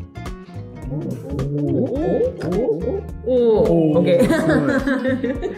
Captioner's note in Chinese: 猴子鬼叫